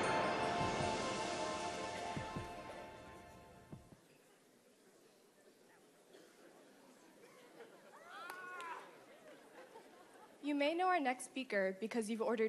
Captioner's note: applause